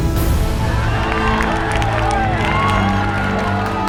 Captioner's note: crowd claps